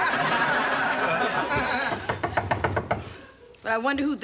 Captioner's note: knocking on door